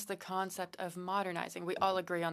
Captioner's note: speaking French